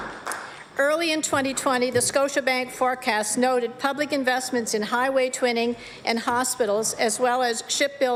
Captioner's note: applause